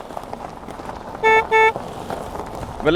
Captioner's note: car honking